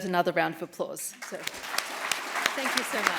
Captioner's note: applause